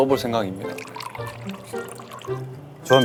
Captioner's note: slurp